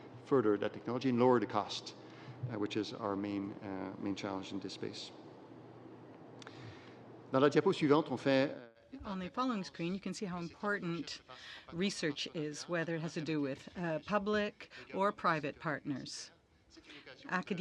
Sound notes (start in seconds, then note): 10.3 speaking French